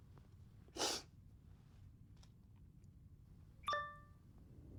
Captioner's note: Liz sniffles; laptop chimes